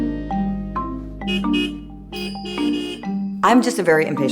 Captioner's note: honking